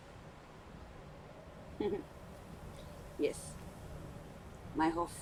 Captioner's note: giggle